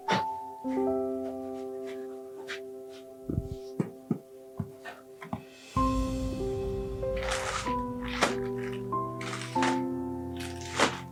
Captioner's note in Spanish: resoplido